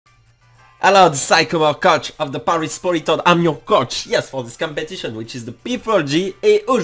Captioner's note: awkward english accent